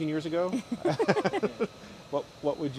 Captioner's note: laughter